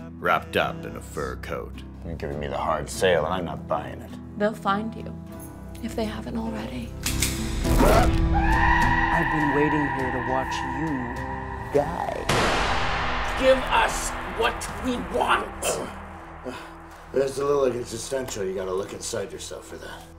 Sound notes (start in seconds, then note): 7.8 shrieks